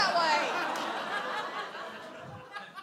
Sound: audience laughs

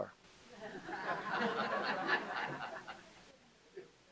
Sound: laughter

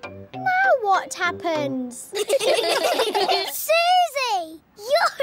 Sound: all giggling

